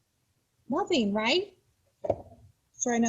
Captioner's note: thud